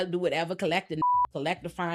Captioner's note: beep